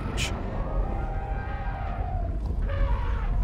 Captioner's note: mammoths trumpet